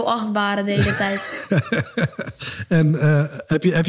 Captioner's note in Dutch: Lacht